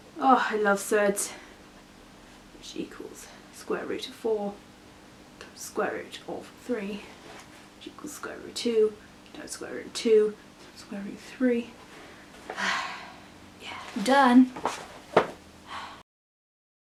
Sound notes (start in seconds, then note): 2.7 more maths muttering; 12.5 sigh